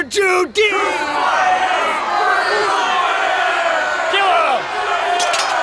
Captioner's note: crowd; sword clattering